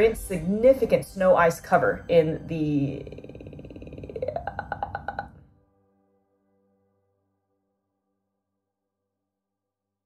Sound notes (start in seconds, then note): 2.8 'ahh' croaking noise